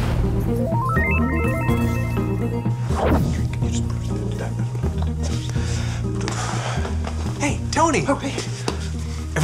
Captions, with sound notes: (electronic tones) (whispering) - Hey Tony - Oh, hey.